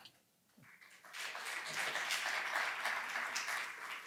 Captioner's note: applause